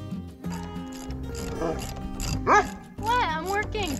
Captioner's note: Lena barks